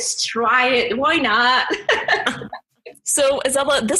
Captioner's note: laughs